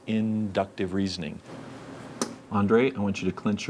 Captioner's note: click